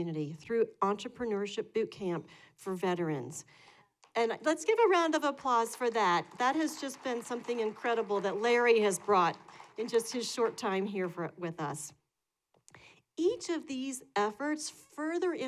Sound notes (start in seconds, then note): 5.5 applause